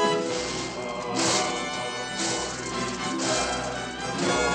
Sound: all chanting

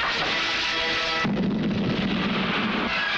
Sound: explosion

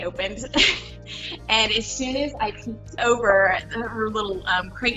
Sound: laughing

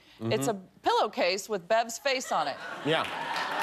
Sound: cheers and applause

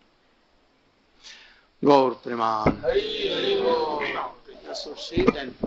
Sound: crowd

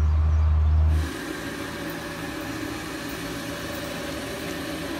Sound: machine whirring

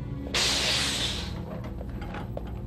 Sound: yet another hiss

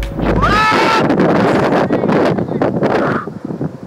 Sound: yelling

